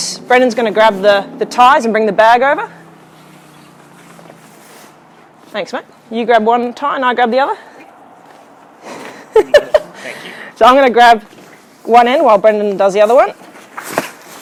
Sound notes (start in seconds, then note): 9.0 laughter